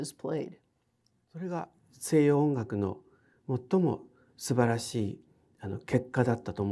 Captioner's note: speaking in foreign language